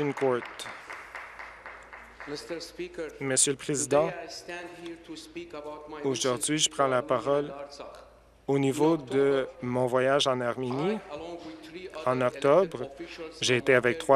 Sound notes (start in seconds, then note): 3.3 some Applause